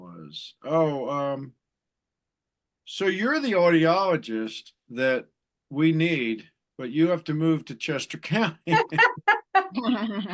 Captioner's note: chuckle